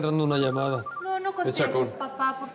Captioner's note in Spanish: Suena celular